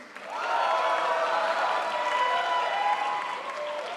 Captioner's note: crowd applauds